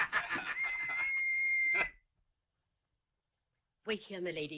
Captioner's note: تصفير بصافرة